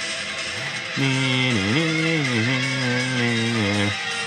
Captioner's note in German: Er summt die E-Gitarren-Klänge